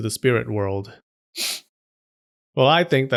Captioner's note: sniff